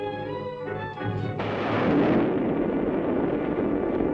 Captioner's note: loud thunderclap